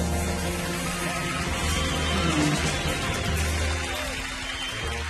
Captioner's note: audience cheering and applaudingng